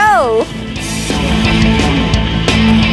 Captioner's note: bright rock music; graphics clatter